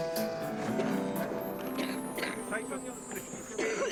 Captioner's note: William coughing; journalists chattering